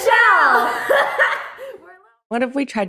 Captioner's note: both laugh